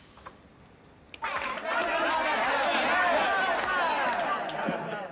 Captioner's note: all shout